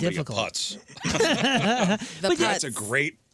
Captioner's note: laughter